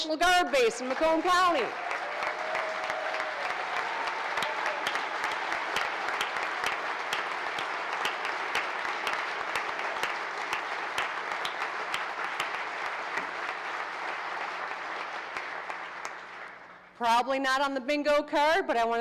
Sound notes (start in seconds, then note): 3.2 cheers and applause